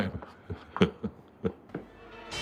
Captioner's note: chuckling